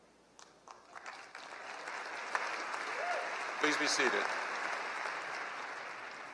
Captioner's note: applause